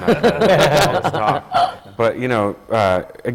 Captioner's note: laughter from panel